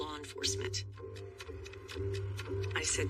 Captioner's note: clock ticking